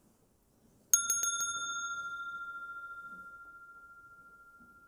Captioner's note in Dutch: rinkelt bel